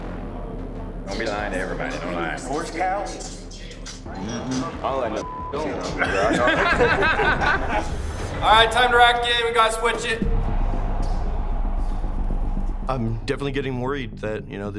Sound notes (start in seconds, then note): 5.5 all laughing; 8.1 tense music